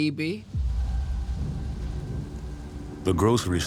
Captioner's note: thunder cracks